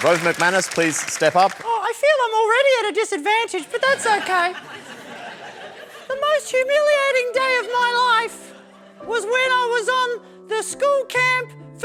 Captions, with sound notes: Rove McManus, please step up. (FALSETTO) Oh, I feel I'm already at a disadvantage, but that's OK. The most humiliating day of my life was when I was on the school camp,